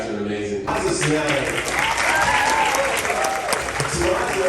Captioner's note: audience applause